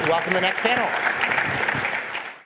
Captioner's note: applause